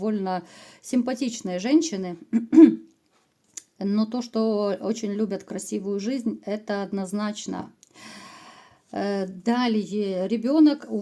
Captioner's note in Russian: откашливается